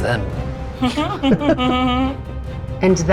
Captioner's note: players chuckling